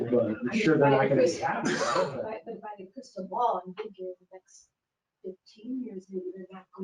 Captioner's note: speaking faintly